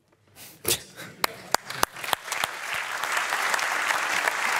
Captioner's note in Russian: публика аплодирует